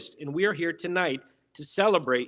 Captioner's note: none